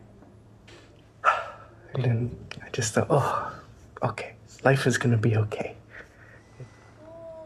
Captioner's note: sighs